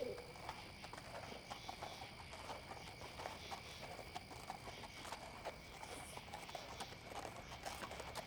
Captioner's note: owl hooting; horses walking